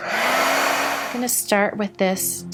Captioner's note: whirring